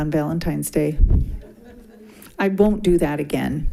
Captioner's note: group laughing